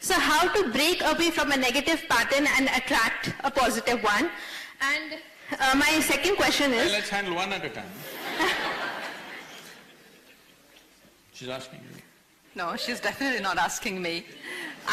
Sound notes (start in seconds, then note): 8.0 laughter